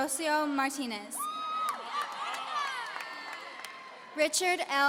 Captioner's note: audience cheering